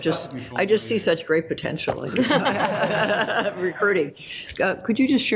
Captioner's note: laughs